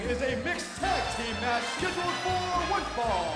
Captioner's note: bell ringing